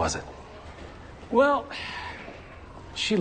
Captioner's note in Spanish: Suspiro